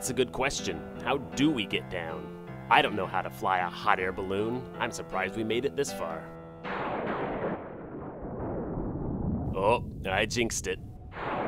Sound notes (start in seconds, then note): 6.7 lightning crashing